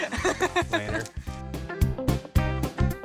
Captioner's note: laughing; upbeat country music